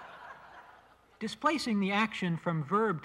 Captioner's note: laughter